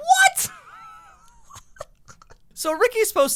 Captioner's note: wheezing laughter